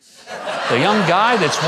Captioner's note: audience laughing